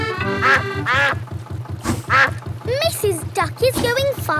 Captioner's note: quacking